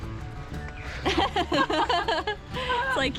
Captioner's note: giggles